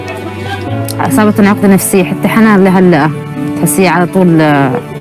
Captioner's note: speaking foreign language